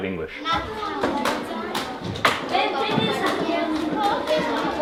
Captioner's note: kids chatter